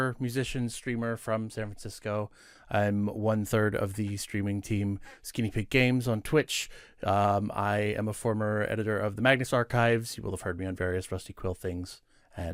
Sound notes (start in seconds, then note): none